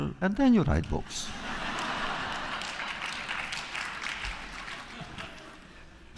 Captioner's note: laughter